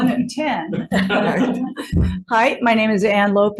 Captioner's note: all laughing